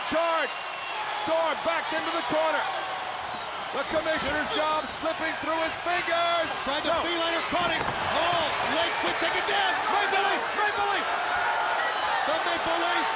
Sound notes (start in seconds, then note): 10.5 crowd chatter